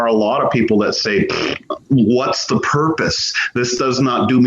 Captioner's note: raspberry